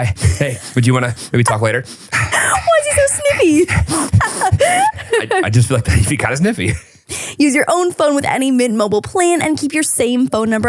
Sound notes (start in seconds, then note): 0.0 sniffs; 4.3 laughing; 5.2 panting; 5.2 sniffing